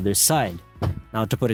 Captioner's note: thud